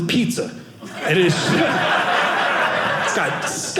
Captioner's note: audience laughing